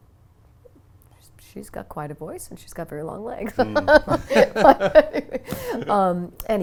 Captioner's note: laughs